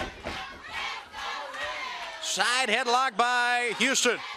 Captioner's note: crowd chatter